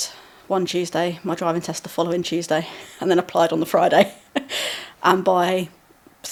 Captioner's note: laughing